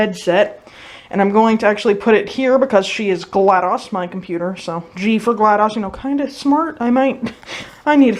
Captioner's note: awkward laugh